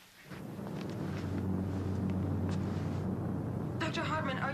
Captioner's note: earth rumbling